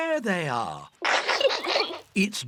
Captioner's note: peppa pig and george laughing